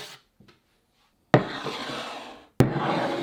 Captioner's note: bowl sliding